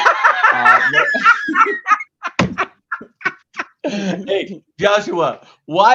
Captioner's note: laugh